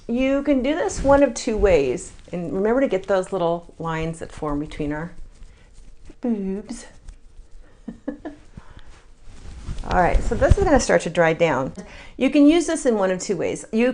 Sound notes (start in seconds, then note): 7.8 laughs